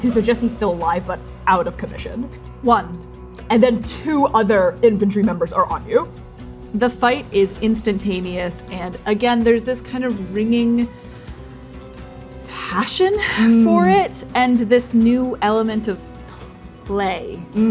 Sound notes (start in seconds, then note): 11.0 deep inhale